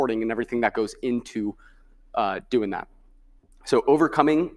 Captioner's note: none